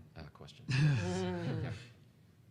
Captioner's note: panelists laughing